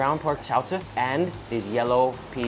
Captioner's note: speaking foreign language